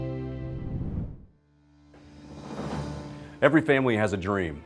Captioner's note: whoosh